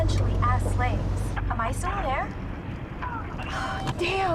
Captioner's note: static